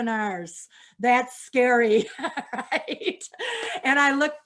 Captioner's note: laughs